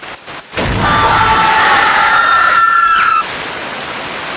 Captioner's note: everyone screaming